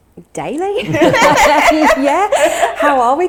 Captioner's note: laughing